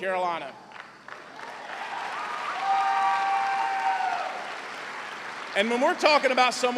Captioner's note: cheers and applause